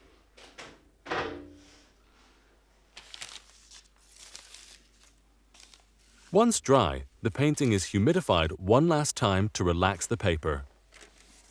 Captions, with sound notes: (paper rustling) Once dry, the painting is humidified one last time to relax the paper.